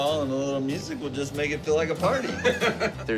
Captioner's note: laughs